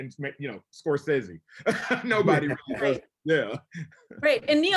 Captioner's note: laughs; laughs